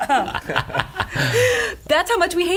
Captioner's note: laughter